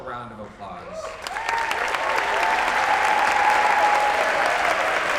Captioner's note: applause, cheers